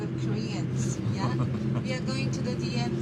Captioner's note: journalist chuckles